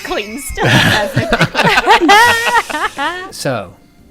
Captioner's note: laughter